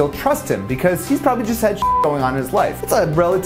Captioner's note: beep